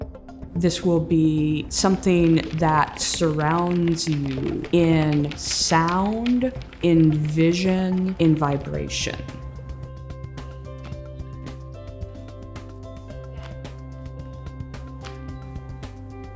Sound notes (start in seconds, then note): 8.4 wire rattles; 9.8 ropes splat and whack the floor